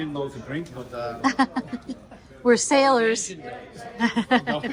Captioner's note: laughs